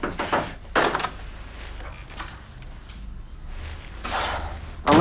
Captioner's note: Viktor knocking